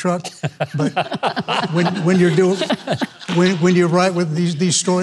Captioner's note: all laughing